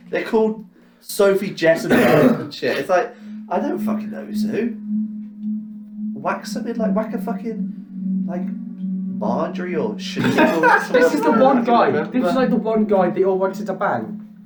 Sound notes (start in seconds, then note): 10.1 laughs